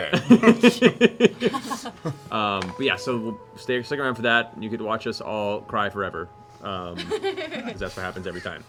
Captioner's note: laughs